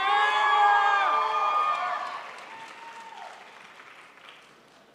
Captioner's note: crowd applauds